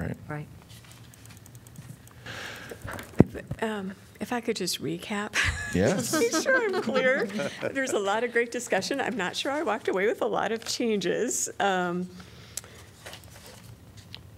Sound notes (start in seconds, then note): 5.4 laughter